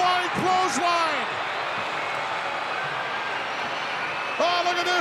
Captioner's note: crowd cheering